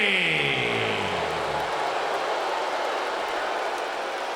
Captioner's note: crowd booing